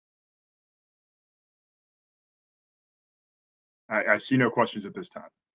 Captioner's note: A pause